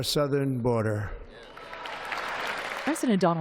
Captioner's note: applause